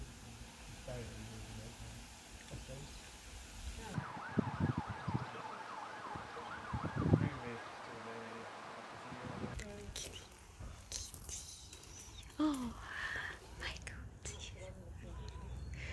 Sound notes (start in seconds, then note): 3.8 sirens in the background; 9.9 whispers; 12.8 gasp